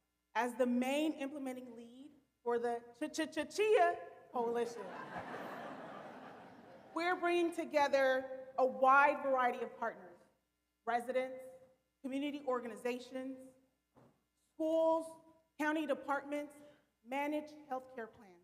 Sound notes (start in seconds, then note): 4.8 audience laughing